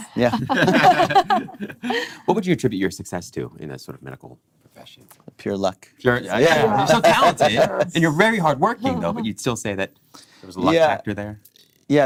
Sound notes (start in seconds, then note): 0.2 laughing; 6.4 laughing